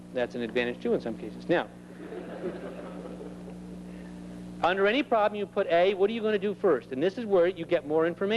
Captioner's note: laughter